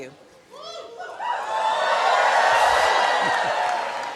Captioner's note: cheering